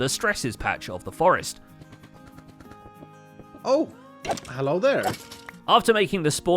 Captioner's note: frantic block breaking